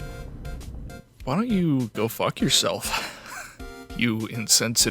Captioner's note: wheeze